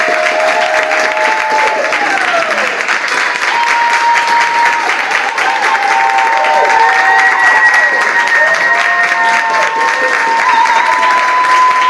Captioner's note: audience applauds